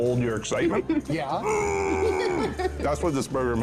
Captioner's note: excitement vocalization